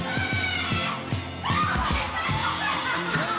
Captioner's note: woman screaming